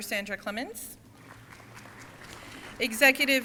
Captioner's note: crowd applauding